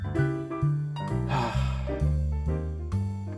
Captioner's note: another sigh